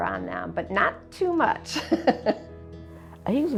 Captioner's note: laughs